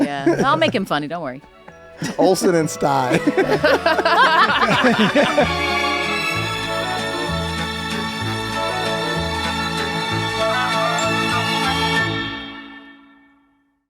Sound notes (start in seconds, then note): 2.9 they all laugh; 5.2 mellifluous music